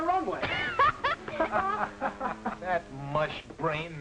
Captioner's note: laughing